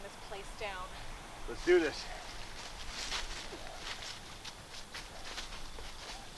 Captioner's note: leaves shuffling